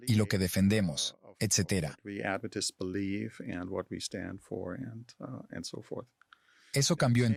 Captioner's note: Hablando idioma extranjero